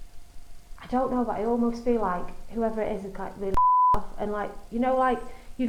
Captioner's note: beep